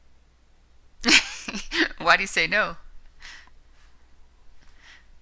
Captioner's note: laughing